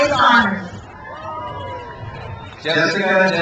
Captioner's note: crowd cheers